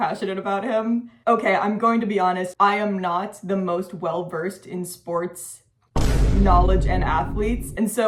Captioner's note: boom